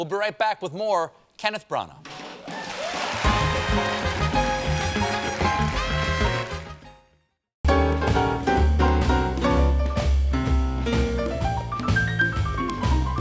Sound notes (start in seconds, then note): 2.4 cheers and applause; 3.2 band playing